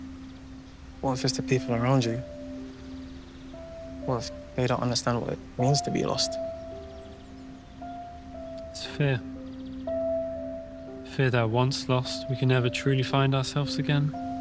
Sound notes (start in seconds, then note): 6.6 birds chirping; 6.6 sentimental music